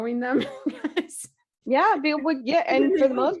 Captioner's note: laughing